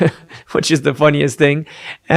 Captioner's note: chuckles